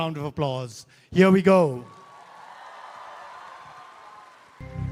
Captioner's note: cheering/Applause